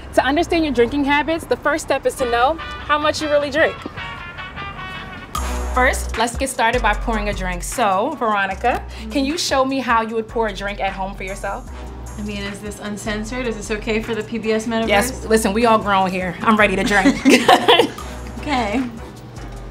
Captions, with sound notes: - To understand your drinking habits, the first step is to know how much you really drink. First, let's get started by pouring a drink. So Veronica, can you show me how you would pour a drink at home for yourself? - I mean, is this uncensored? Is this okay for the PBS members? - Yes, listen, we all grown here. I'm ready to drink. (both laugh) - Okay.